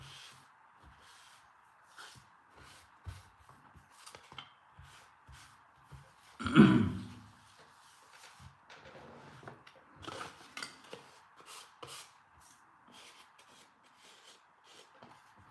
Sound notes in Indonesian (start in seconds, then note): 6.4 berdehem